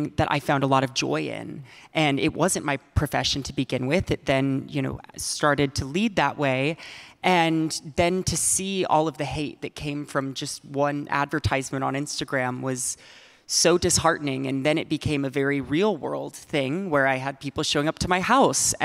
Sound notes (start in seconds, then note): none